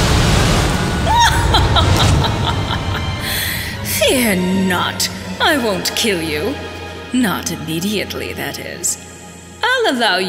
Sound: evil Laughter

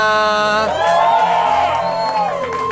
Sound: crowd cheers!

